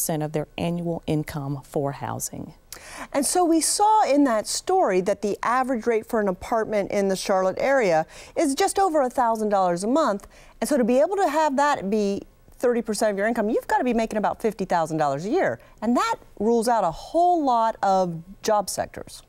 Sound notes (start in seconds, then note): none